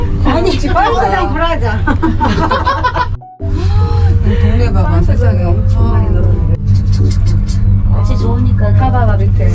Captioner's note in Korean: 웃음